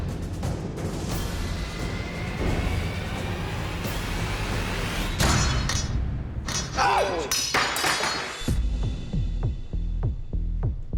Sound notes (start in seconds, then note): 5.9 shout